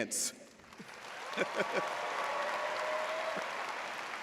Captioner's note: audience applauds